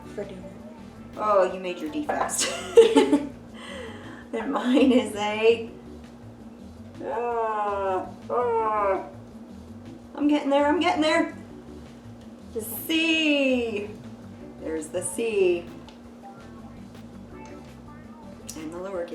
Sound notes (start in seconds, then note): 2.4 laughs; 15.8 gentle upbeat music